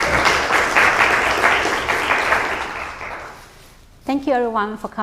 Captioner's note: applause